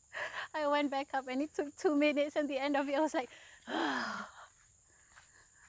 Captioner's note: exhale